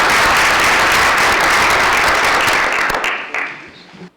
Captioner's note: applause